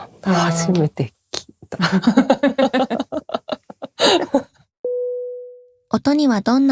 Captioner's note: laughter